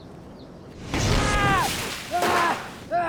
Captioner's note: air whooshes; bloody thud; Ash screams; gun fires